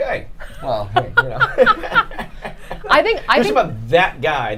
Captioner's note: both laughing